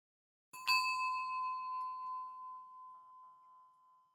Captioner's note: light chime